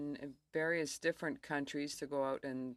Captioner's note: speaking in french